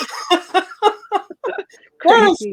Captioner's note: laughing